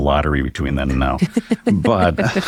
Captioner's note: chuckles